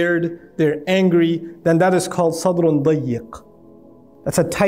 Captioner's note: Arabic